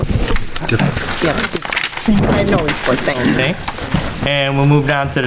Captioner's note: speaking away from mic